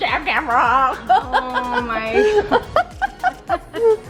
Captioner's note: laughs